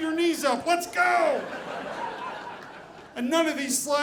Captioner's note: audience laughing